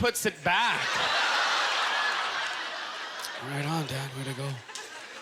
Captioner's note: audience laughter